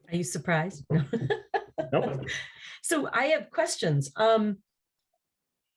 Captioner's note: laugh